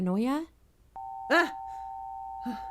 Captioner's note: AMBER ALERT tone